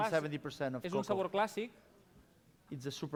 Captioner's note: non-english speech